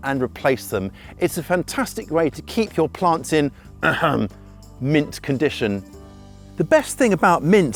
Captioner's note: ahem